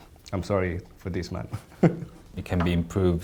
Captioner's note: laughs